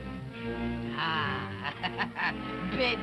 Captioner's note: laughs